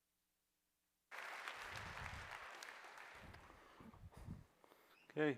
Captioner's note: applause